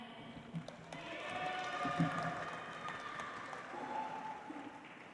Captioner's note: audience applauds